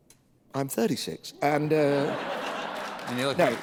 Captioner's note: laughter